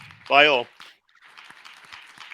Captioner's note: applause